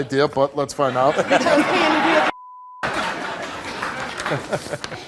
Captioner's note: audience laughs